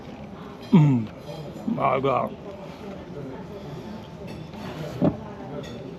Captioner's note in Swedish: harklar sig